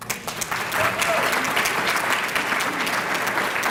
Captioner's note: applause